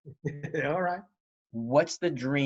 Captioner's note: chuckles